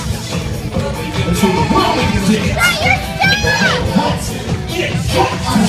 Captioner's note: people talking and yelling